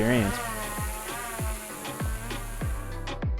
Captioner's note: drone taking flight; lively music